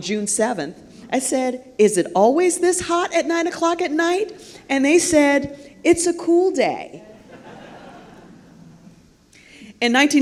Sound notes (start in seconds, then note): 7.1 laughter